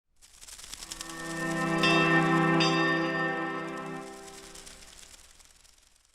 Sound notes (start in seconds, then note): 1.0 opening chiming